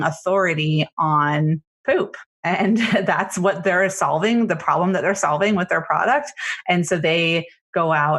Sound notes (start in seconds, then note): 1.4 laughs